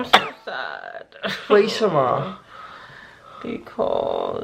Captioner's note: in Mandarin